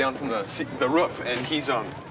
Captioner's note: cheering